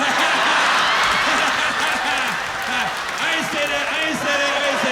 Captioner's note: laughter